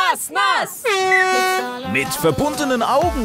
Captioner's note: Startsignal